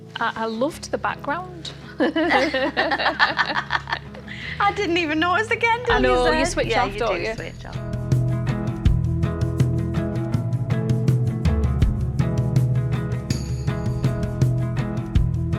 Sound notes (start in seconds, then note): 1.9 both laughing; 8.1 upbeat guitar music